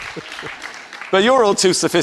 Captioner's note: audience applause